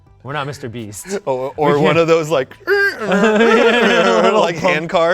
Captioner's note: mimics creaking